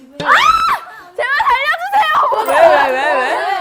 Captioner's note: screaming